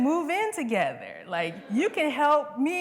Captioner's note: laughter